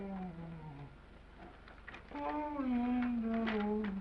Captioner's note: humming